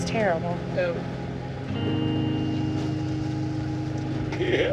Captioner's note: cries